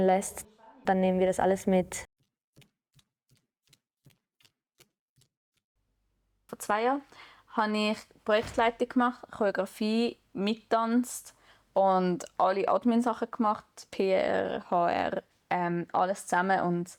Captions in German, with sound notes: dann nehmen wir das alles mit. *leise Schritte* Vor zwei Jahren habe ich Projektleitung gemacht, Choreografie, mitgetanzt und alle Admin-Sachen gemacht, PR, HR, alles zusammen,